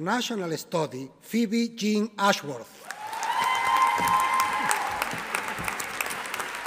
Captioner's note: audience applauding